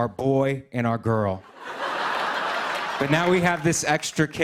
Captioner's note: laughter